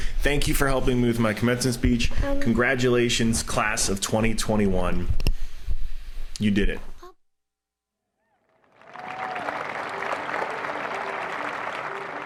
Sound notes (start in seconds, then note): 8.5 applauding